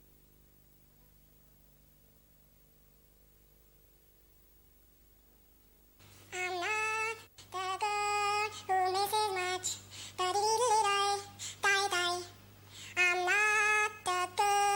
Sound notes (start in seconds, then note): 8.4 humming; 14.5 humming